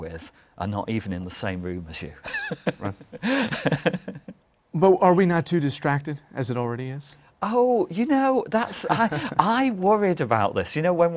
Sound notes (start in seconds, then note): 2.2 laughter; 8.7 laughter